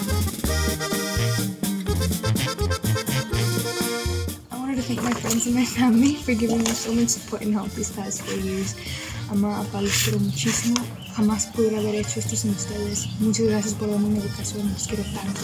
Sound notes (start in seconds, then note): 9.3 speaks in foreign language